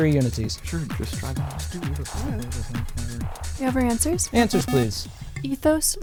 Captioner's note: wispering